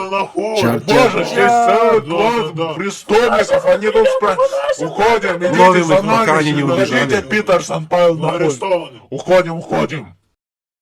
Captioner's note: policemen mumbling